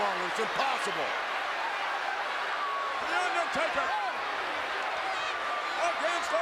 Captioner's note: applause